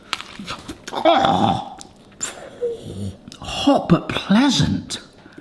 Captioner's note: person crunching